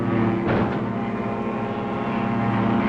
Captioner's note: thud